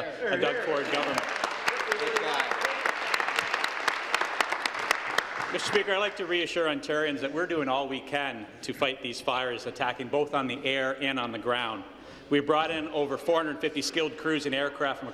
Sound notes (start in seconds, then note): 5.8 applause